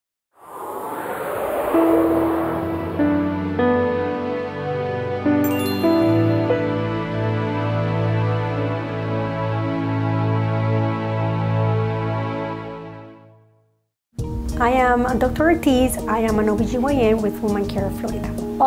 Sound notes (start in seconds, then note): 0.4 digital whooshing; 2.7 low-key music